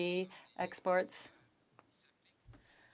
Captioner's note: speaking French